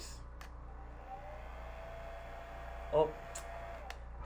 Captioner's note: dryer blows